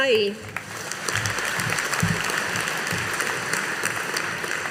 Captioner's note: audience applauding